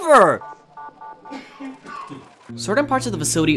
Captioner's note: distant coughing